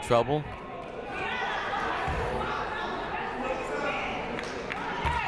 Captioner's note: people shouting in the crowd